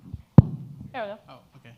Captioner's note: microphone pops